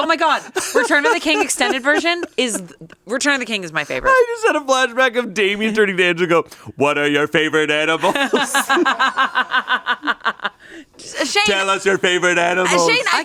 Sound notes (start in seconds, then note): 8.0 laughs